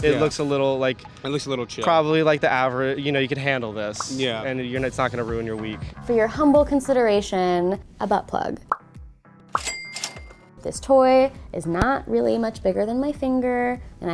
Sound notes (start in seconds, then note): 8.6 popping; 9.5 cash register opening